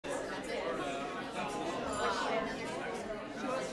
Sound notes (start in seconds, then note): 0.0 people talking